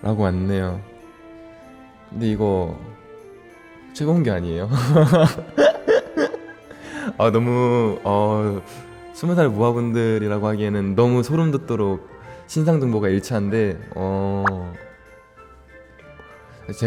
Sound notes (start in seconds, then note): 4.8 laughs